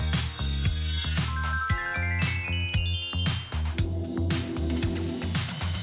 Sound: bells and chimes; upbeat music continues

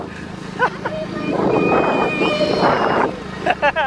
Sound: yells

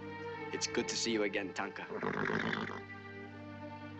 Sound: nickering

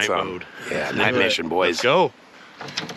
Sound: chuckling

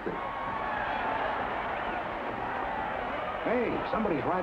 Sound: crowd cheers

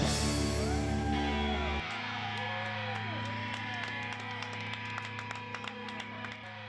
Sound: crowd cheering; crowd applauding

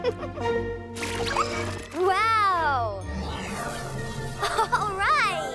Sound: laughs

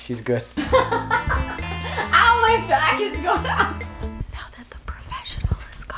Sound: laughs

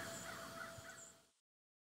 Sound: birds cawing

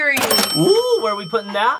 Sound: cash register dings

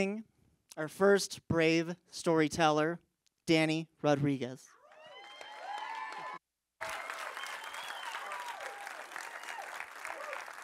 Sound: applause

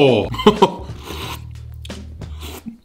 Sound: laughs; slurps

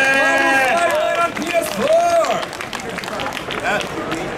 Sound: audience clapping

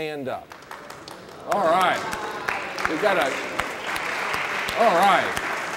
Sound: applause

